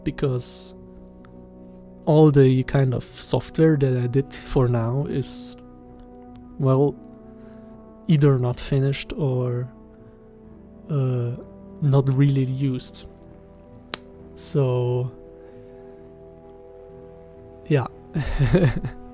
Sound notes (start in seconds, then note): 13.9 click; 18.2 laughs